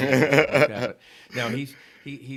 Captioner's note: laughing